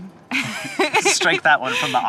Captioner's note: chuckles